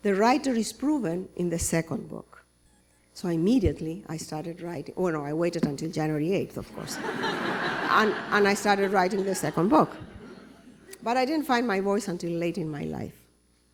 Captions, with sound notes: The writer is proven in the second book." So, immediately I started writing. Oh no, I waited until January 8th. [laughter] And, I started writing the second book. But I didn't find my voice until late in my life.